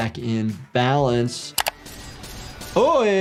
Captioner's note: gunshots blasting; mouse clicking